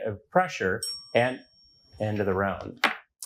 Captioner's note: bell dings